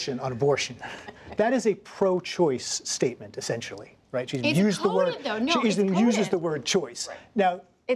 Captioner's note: laughter